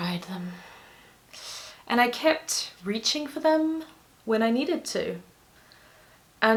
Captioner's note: deep inhale